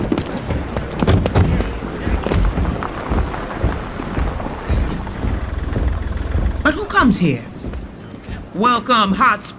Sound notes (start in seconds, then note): 1.0 vehicle doors shutting; 2.2 footfall